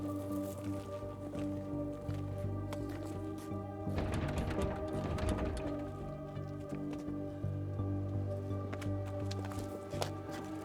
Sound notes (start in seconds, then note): 0.0 bikes rattle; 0.3 eerie music; 3.6 door rattles